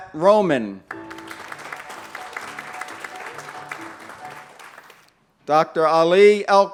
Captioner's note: applause